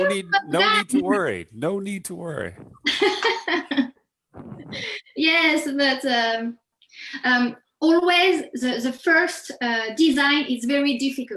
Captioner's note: laughs